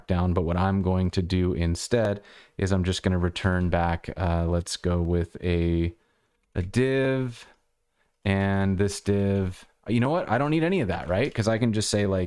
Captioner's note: audio cutting out